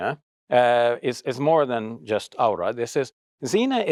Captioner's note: speaks Arabic